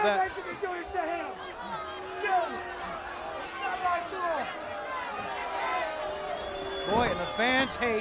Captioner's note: crowd chatter